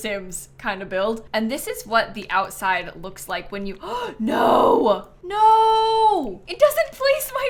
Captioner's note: gasps